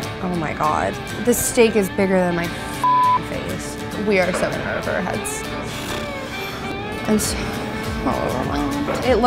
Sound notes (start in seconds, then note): 0.0 rhythmic guitar music; 2.8 beep; 7.9 sighing